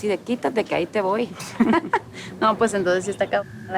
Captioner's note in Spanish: Risas